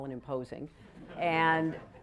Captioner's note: laughter